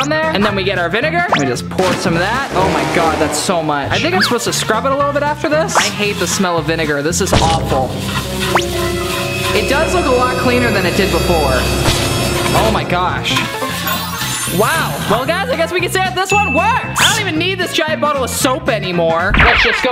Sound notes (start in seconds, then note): 7.0 suspenseful music; 16.2 ding